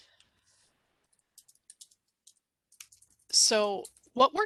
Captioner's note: computer keys clacking